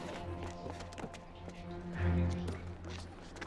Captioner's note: footstep